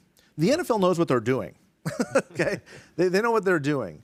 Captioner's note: chuckles